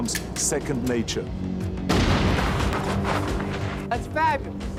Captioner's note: gun firing